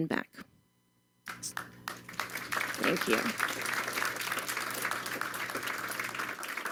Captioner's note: applause